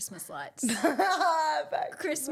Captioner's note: laughs